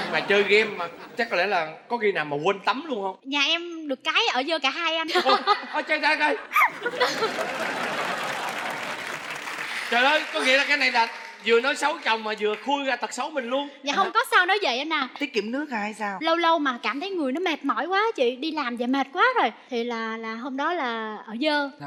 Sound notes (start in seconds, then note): 6.4 laughing; 6.9 applause